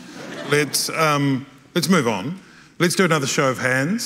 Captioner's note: audience laughing